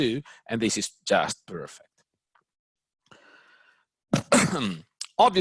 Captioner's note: clears throat